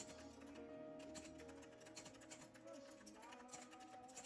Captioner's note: click clack